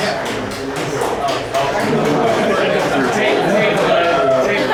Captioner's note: loud audience chatter